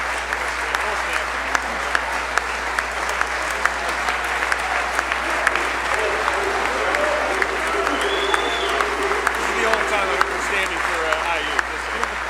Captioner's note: applause